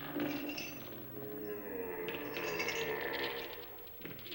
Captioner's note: ghostly moaning